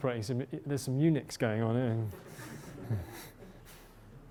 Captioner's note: laughter